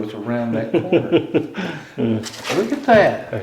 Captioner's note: chuckles